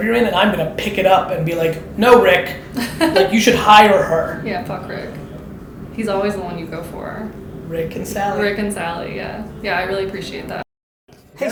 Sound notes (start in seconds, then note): 2.8 laughs